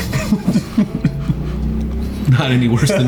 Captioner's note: all laughing